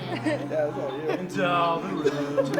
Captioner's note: deep Voice